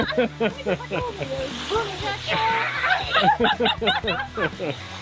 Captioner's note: everyone laughs